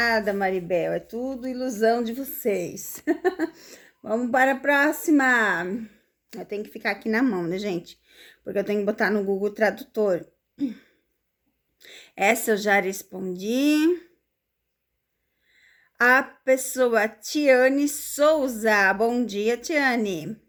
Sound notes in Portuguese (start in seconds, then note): 2.9 risadas; 8.1 limpando a garganta